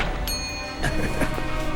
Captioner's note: coughs